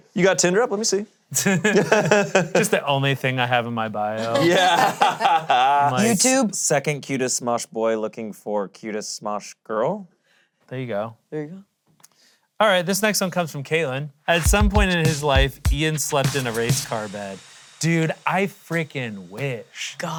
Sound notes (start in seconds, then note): 1.3 laughs; 4.2 laughs